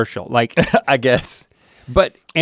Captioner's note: chuckles